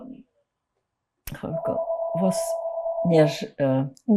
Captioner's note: phone ringing